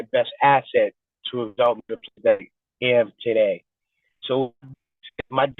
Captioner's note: distorted recording